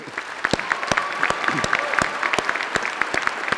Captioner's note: applause